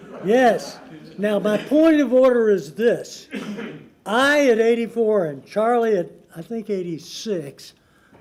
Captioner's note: laughter